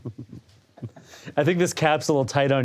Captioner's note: all laugh